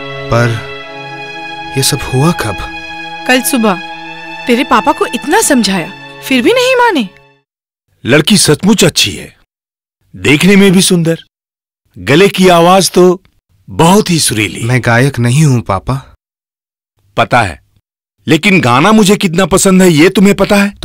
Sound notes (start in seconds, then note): none